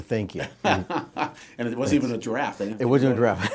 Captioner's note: laughs